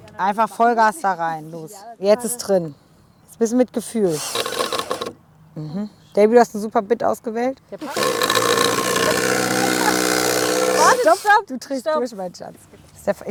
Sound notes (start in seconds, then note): 4.0 rattling; 7.8 loud rattling